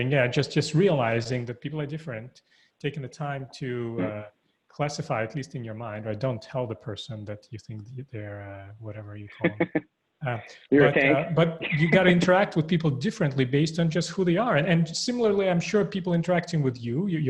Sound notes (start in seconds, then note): 9.4 laughing; 10.8 laughs